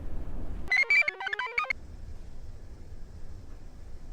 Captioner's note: computer chirps